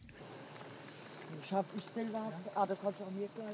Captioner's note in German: Leise Gesprächsfetzen